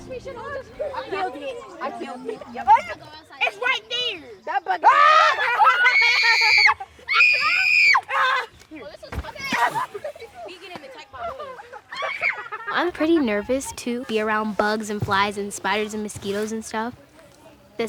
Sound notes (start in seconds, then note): 0.1 kids mumbling; 4.8 kids screaming; 8.4 kids mumbling